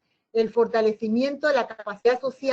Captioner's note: Spanish